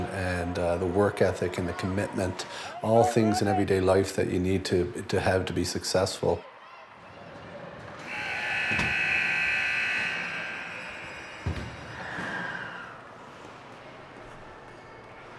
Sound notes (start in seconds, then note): 11.6 buzzing